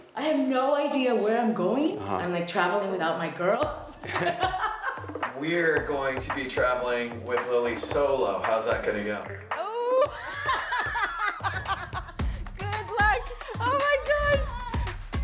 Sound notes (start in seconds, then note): 3.6 laughs; 9.9 both laughing